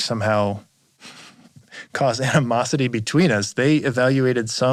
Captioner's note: chuckles